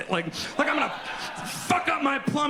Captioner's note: audience laughs